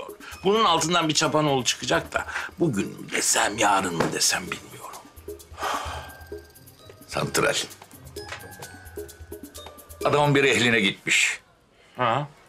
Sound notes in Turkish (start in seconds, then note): 5.5 Nefes sesi